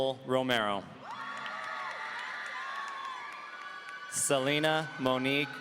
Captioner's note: audience cheering